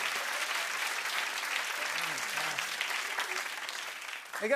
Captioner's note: applause